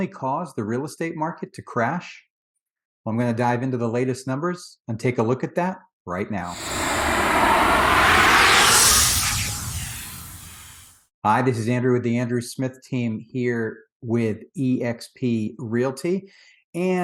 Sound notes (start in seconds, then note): 6.5 whooshing